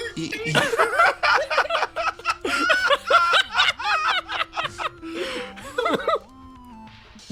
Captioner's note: laughs; laughing